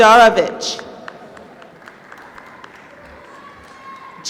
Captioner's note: applause